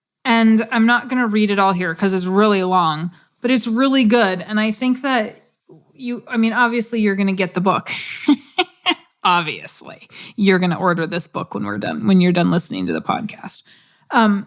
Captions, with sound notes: And I'm not gonna read it all here because it's really long, but it's really good and I think that you I mean, obviously you're gonna get the book. [LAUGH] Obviously, you're going to order this book when we're done when you're done listening to the podcast. And